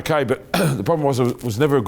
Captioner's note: clearing throat